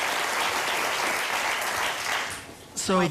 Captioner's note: applause